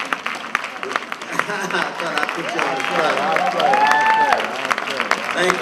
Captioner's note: applause